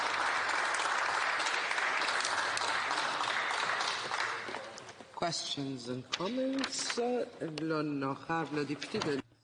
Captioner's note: applause